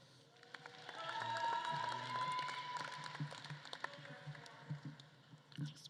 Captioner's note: audience claps and cheers